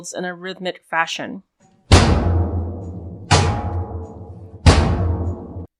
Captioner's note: metal pipe hitting metal shield